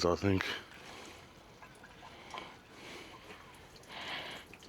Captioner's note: water splashing